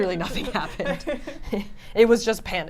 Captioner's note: laughs